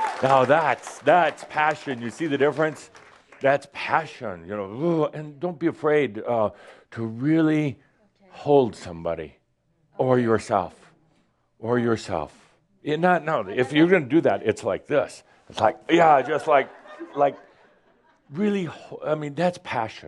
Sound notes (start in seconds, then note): 4.7 more applause and laughter